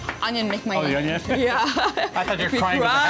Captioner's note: laughs